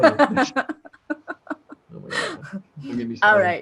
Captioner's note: laughter